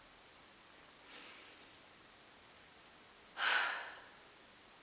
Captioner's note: sighs